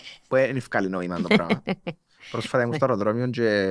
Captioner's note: she laughs